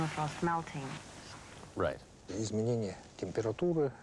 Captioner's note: speaks Russian